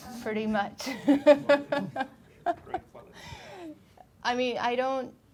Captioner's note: laughing